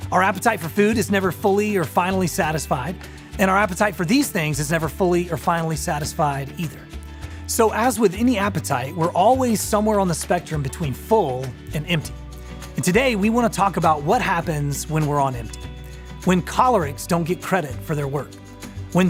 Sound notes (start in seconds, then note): none